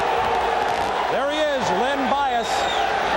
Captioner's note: crowd cheering